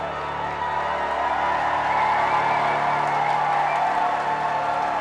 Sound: applause

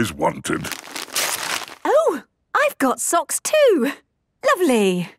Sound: tearing

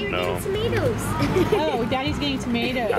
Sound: laughs

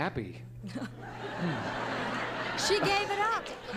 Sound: laughter

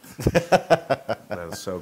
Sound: laugh

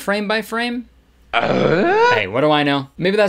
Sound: confused grunt

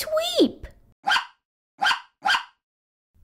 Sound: bark! Bark! Bark!

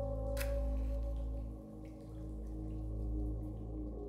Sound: match strikes

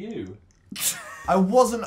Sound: laughs

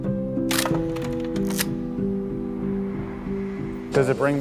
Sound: gentle music plays; camera shutter clicks

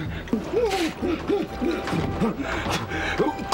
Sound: Griffin gags

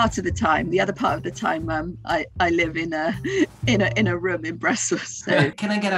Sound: laughs

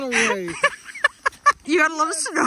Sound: laughter

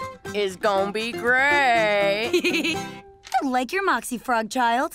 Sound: giggling

